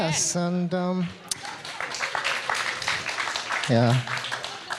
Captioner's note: audience applauding